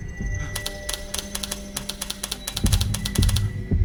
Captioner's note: button clicking